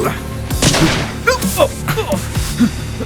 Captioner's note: gunshot